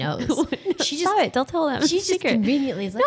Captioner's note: laughing